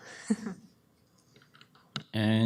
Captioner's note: chuckles